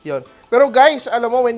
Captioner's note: sizzles